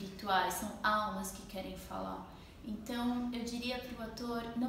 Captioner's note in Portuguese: none